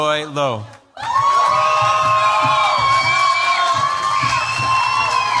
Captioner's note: cheers, applause